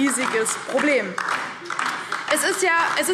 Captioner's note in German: Beifall DIE LINKE